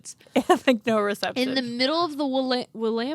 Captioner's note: laughs